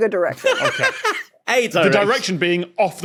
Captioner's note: laughs